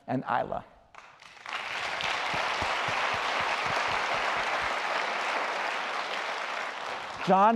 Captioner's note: applause